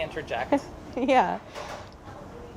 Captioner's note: laughs